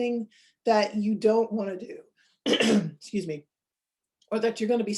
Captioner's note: clears throat